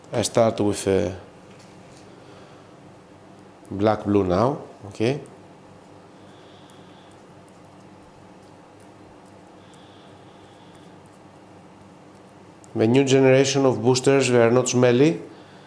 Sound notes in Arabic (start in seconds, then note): 7.4 بدون صوت